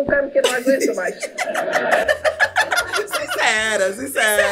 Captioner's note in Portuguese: riem